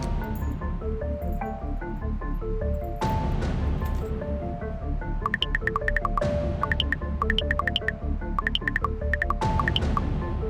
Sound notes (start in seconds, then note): 5.1 text chirping